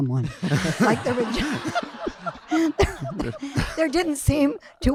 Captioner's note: audience laughing